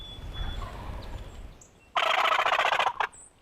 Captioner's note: turkey call; turkey gobbles